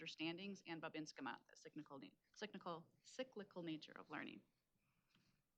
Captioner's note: speaking Native language